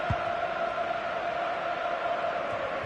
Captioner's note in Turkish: coşkulu tezahürat